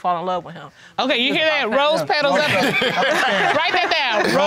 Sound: audience laughing

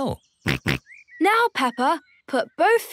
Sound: snorts

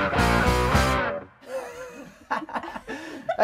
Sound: laughter

